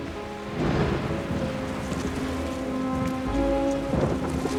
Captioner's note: thunder rumbling; dramatic music